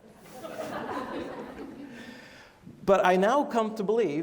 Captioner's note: laughing